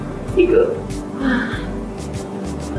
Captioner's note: sigh